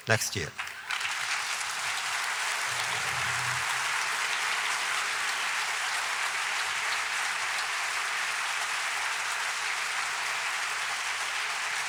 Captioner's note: applause